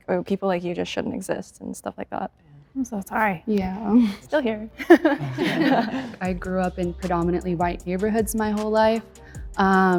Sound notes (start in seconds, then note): 4.8 chuckles; 4.8 group chuckles